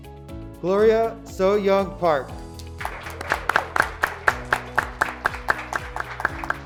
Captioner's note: graduates clapping